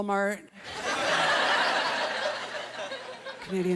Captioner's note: laughter